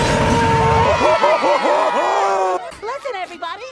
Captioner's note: The Children Cheers As Lucario Defeats Patrick